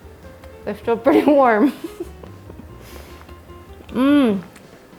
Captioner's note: laughs